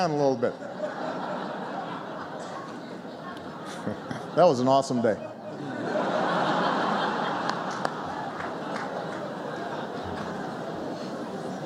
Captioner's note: laughter; laughter